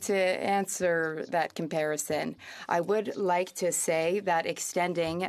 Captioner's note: speaking French